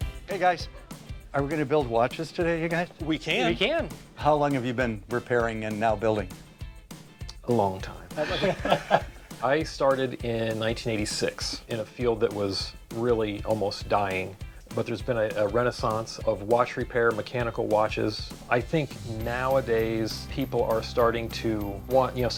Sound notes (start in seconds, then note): 8.1 laughing